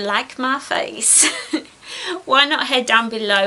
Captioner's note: giggles